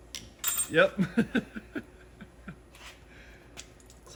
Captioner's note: laughs